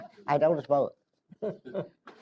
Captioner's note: laughter